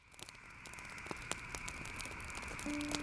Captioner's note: campfire crackling